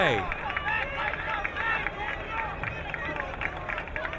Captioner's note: crowd cheering